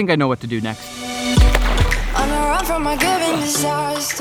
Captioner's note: water splashing